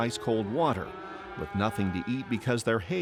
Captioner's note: cows moo